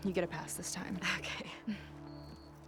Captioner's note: laughing